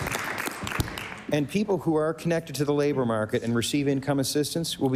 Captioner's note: applause